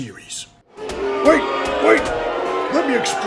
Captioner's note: booooo!